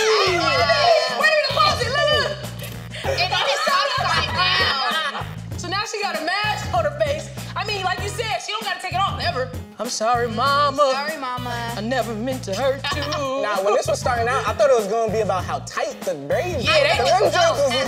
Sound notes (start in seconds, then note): 3.0 laughing; 12.6 laughing